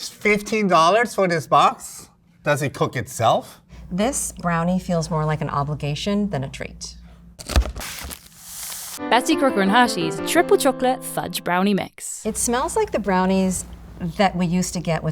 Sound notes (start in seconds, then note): 7.4 cardboard tearing; 7.4 paper crinkling